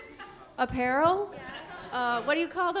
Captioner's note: audience laughing